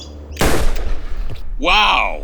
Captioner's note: gunshot